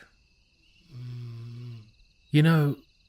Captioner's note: Doug snoring